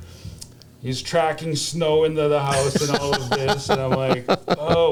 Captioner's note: laughter